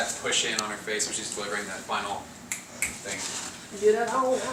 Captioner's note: snaps fingers